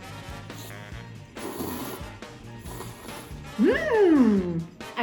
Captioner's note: slurping noodles